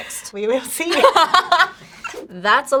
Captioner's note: laughs